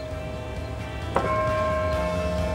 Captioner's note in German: Gong